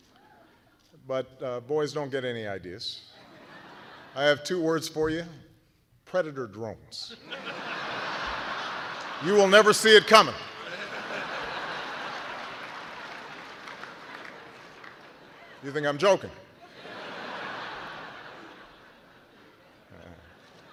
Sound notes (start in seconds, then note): 2.5 laughter; 13.0 laughter